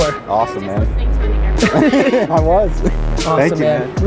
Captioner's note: laughs